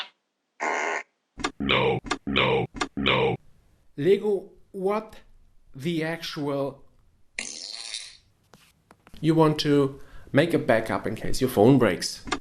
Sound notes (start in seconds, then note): 0.0 multiple different sounds of human farting; 1.3 robotic voice; 7.4 fart